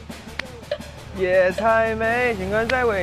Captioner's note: cicada